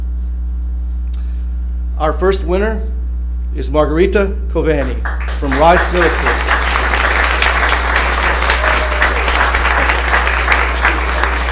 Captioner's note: applause